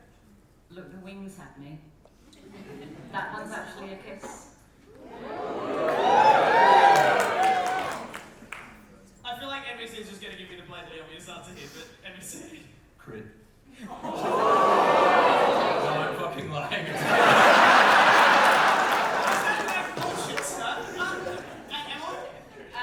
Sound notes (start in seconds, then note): 4.9 audience whoop; 13.5 audience reaction; 16.9 big audience laugh